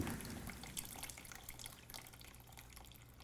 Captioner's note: liquid dripping